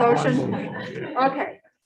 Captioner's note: group laughs